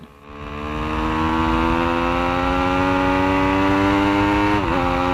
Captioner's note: motorbike engine roaring